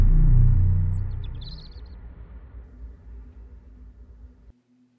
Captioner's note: birds chirping